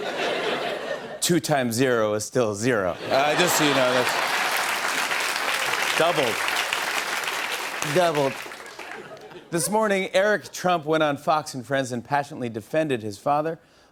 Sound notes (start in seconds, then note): 0.0 laughter; 3.0 laughter and applause